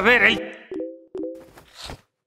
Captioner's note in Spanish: Suena el teléfono